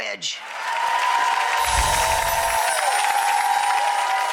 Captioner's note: applause